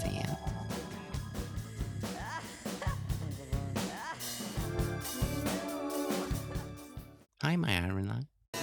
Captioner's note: dying of laughter